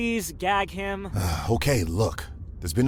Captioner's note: sighs